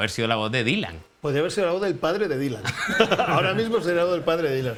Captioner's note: laughs